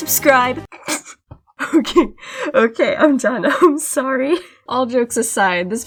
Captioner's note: snickers